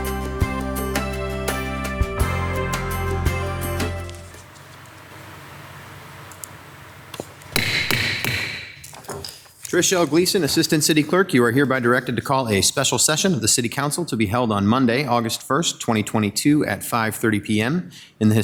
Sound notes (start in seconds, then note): 7.5 gavel bangs